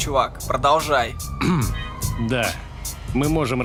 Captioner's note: clears throat